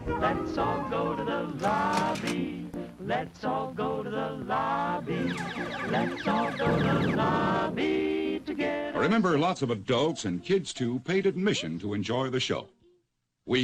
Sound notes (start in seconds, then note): 5.0 video game beeping